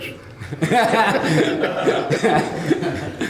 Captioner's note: laughing